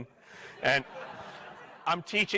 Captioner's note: crowd laughing